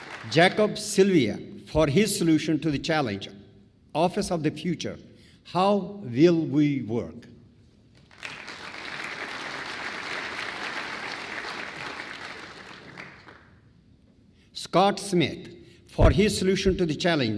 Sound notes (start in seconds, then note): 7.9 applause